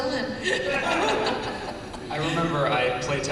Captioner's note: laughter